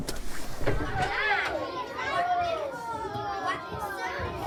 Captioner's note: excited chatter